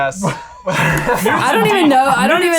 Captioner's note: laughing